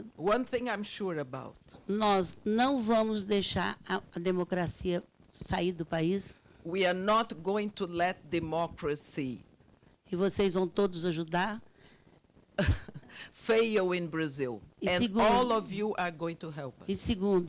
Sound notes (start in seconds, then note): 0.0 speaking Portuguese; 2.1 speaking Portuguese; 12.6 laughs; 17.2 speaking Portuguese